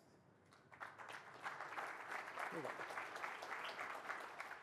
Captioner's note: applause